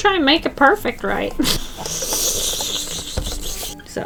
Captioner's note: chuckles